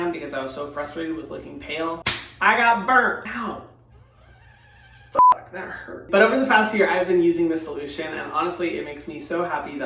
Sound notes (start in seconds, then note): 2.0 slaps hand; 5.2 beeps